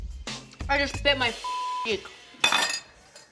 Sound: beep

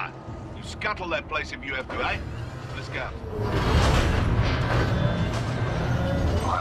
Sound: radio

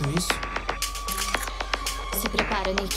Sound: sound of shotgun charging

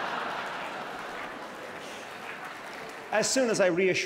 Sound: laughs loudly; claps loudly

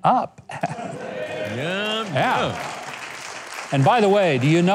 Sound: audience applause

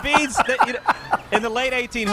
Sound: laughter

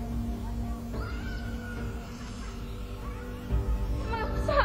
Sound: yelling

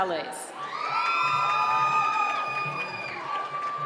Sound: cheering

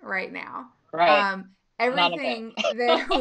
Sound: laughing

